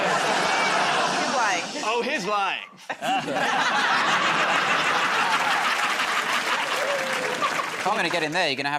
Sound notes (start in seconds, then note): 0.0 laughter; 2.8 laughter